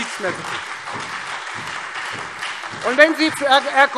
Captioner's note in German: Beifall Freie Demokraten und SPD